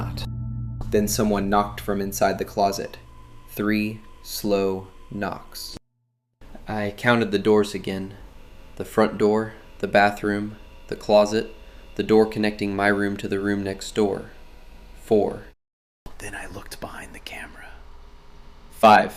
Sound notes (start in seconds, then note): 15.4 whispers